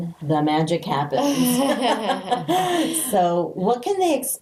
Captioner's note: laughing